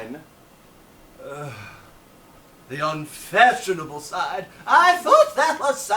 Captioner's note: groans